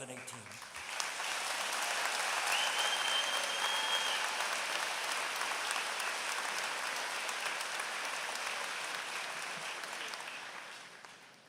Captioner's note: applause